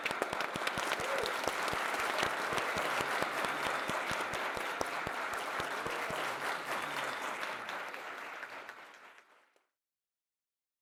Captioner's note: applause